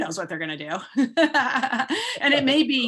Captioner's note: laughing